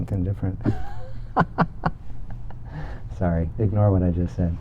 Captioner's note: laughs